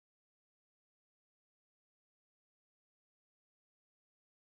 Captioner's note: none